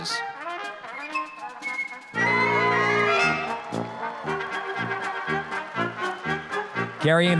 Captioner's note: applause, cheering